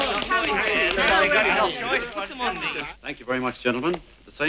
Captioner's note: excited murmuring